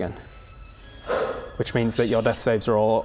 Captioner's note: sigh